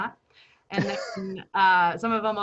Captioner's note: chuckles